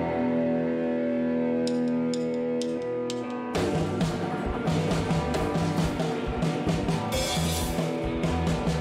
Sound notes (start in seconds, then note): 1.7 tick, tick, tick, tick of drumsticks; 3.2 fast tempo rock music